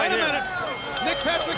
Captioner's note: bell ringing